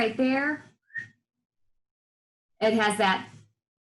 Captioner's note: slight whistle